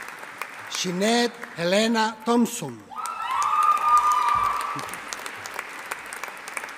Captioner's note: audience applauding